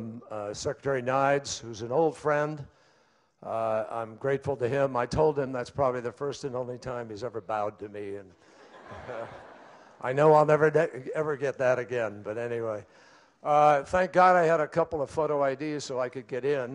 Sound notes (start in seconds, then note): 8.5 laughter